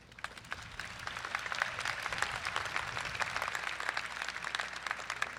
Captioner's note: crowd applauds